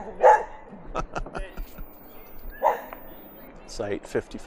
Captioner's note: laughs a little